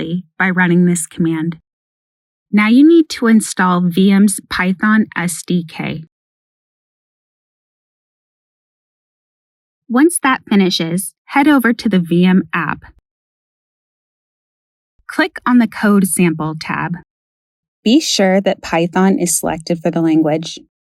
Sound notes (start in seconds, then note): none